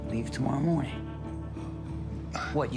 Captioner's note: sighs